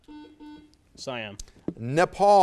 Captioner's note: buzzer